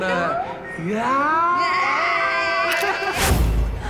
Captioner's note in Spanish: Exclamaciones